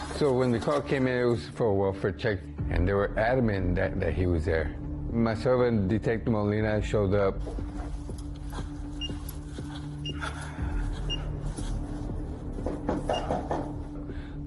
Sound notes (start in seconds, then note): 8.7 footsteps; 12.6 knocking